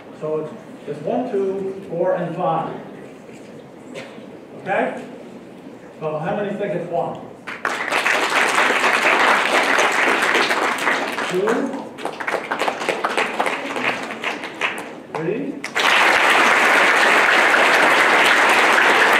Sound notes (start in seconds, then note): 7.4 applause